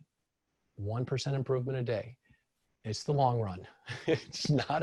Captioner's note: laughs